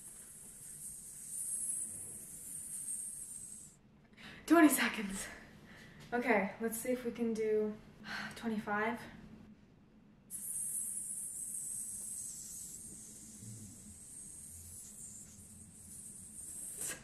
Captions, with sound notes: 20 Seconds! Okay. Let's see if we can do 25. (exhaling and hissing sounds)